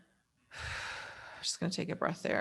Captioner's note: breathes deeply